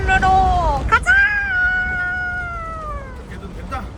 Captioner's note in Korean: 드디어 살았다는 환호성